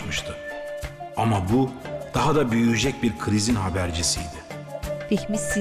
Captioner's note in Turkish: Ahmet dış ses